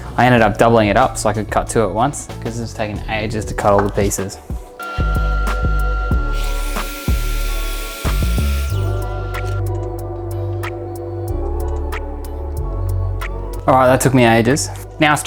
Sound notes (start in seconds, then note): 4.8 saw whirring; 6.2 chill music